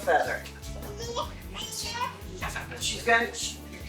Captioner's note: indistinct chatter